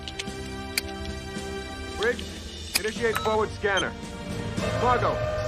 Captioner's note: beeping